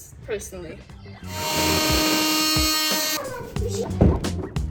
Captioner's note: machine whirling